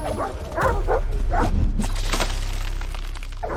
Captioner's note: wolf growls